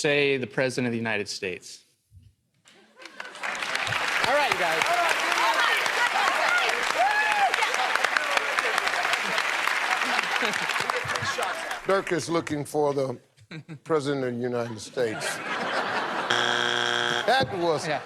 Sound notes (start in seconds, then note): 7.5 applause; 14.5 laughter